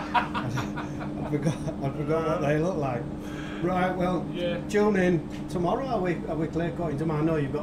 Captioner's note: laughing